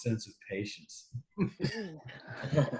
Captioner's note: brief laughter